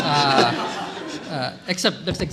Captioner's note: laughter